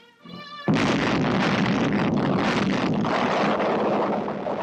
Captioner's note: explosion booming